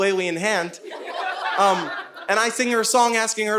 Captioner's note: audience laughing